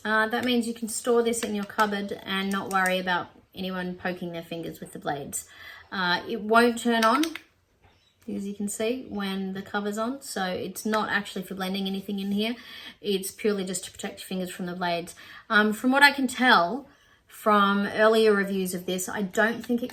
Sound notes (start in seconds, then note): 6.8 double-click noise